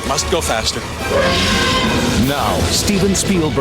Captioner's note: dinosaur roars